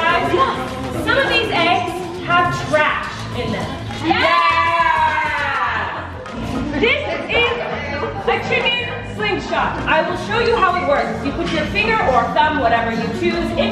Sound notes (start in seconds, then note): 4.1 group yells